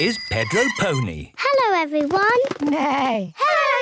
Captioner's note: bike bell; neigh